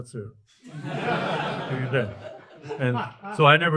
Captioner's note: audience laughs